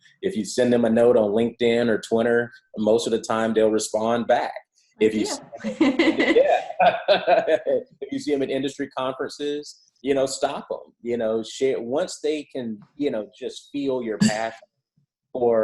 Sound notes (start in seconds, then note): 5.2 laugh